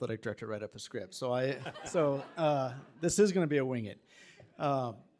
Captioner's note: attendees chuckling